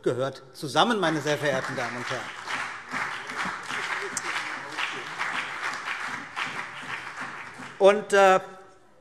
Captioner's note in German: Beifall CDU und BÜNDNIS 90/DIE GRÜNEN